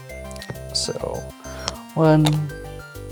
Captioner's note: tiles clattering